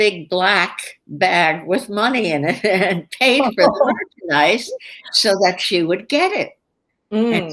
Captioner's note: laughter